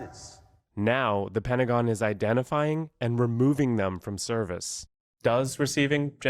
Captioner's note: voice-over